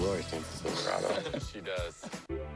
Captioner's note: laughter